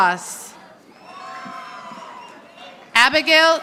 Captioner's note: audience applauding